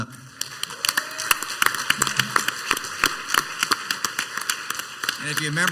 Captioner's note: clapping and cheering